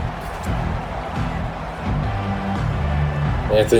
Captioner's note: crowd Noises